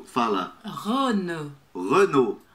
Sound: brazilian pronunciation

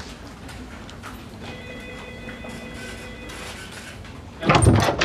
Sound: phone ringing

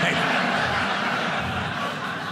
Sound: audience laughing

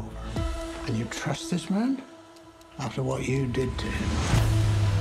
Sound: in English

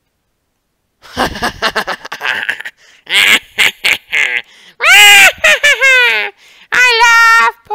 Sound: laughing/cakcling

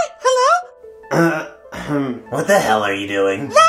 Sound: lazy cough

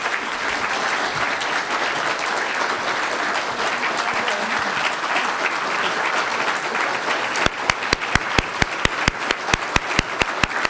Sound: applause

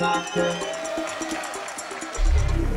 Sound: cheers and applause

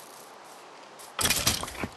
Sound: bones shatter

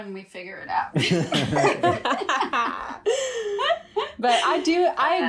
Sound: all laugh

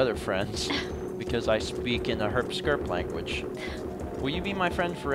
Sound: chuckles

